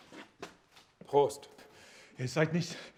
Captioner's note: speaking German